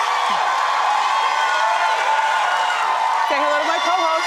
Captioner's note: audience cheering